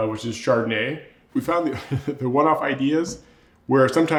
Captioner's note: chuckles